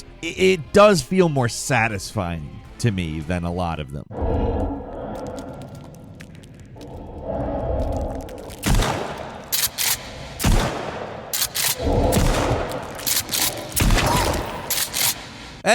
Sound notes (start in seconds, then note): 4.1 creature growling; 8.8 gun fires; 9.6 gun reloads; 10.4 gun fires; 11.3 gun reloads; 12.1 gun fires; 13.0 gun reloads; 13.9 gun fires; 14.7 gun reloads